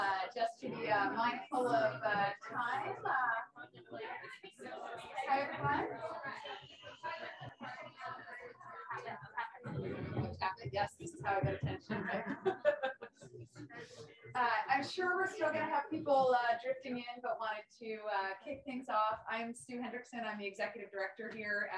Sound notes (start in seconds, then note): 3.6 people mumbling; 11.8 person laughing; 12.2 tapping microphone